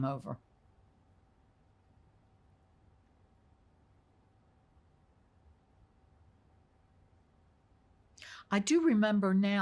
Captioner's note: pauses 8 seconds